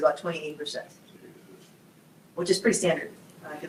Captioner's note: group murmurs